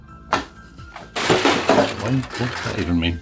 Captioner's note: box dropping